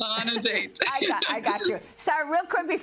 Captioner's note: laughter